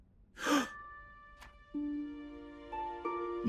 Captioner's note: gasps